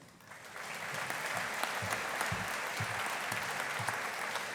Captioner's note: audience applauding